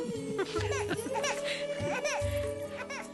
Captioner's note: baby Crying